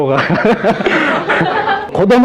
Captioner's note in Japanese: 笑い